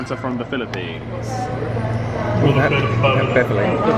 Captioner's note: indistinct chatters